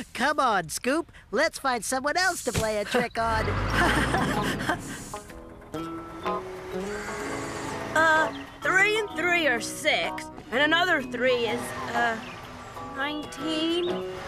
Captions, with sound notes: COME ON, SCOOP, LET'S FIND SOMEONE ELSE TO PLAY A TRICK ON! ( Laughing ) UH... 3 AND 3 ARE 6... AND ANOTHER 3 IS... UH, 19?